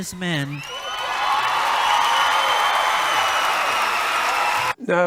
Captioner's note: applause